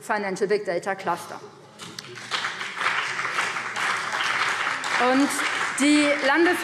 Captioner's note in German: Beifall BÜNDNIS 90/DIE GRÜNEN und CDU